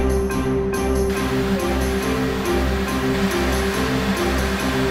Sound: machine whirring

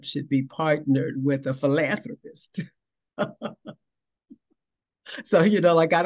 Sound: laughing

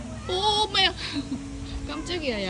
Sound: mom freaking out

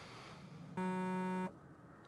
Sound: phone buzzes

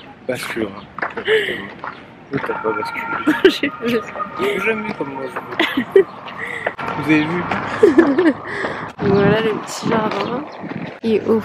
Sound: laughs

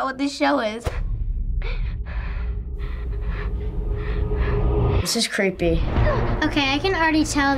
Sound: Arya breathing heavily

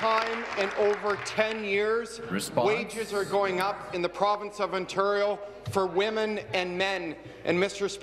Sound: applause

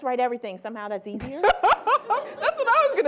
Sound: laughing

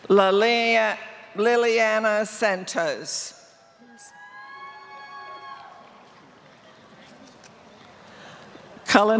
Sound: applause

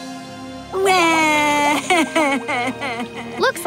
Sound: crying

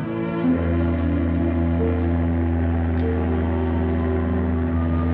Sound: ship horn honking

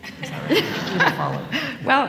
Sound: laughter

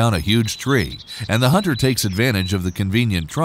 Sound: none

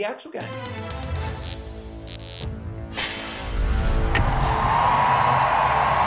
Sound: outro music; cheering

